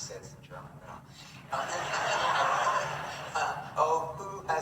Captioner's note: audience laughing